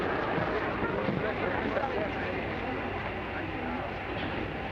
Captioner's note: people murmuring